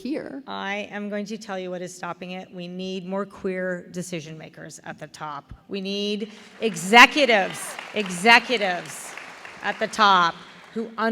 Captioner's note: applause